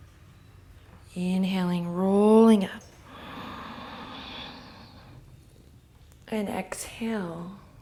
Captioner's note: long inhale